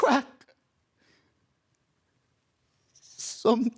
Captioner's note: soft breathing